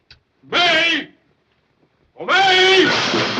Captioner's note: shouting; dishes clattering